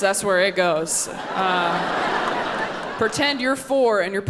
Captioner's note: audience laughing